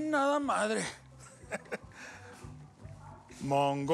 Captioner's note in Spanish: risas